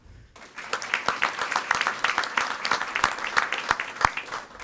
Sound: audience applauding

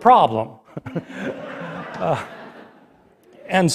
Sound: laughter

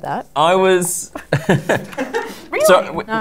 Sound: laughter

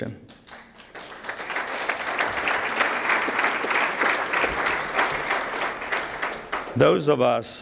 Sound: applause

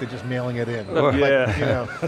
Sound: chuckling

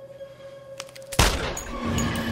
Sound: gunshot

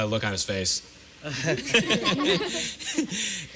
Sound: laughter

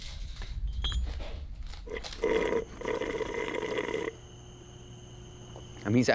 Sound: slurping

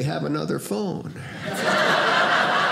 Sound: audience laughing

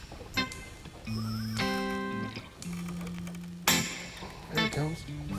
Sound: fishing reel buzzing

